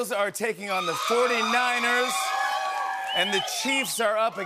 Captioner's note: cheering and Whistling